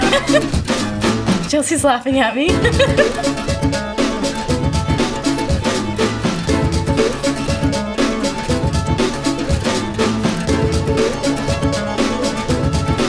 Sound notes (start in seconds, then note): 0.0 laughing; 0.0 instrumental music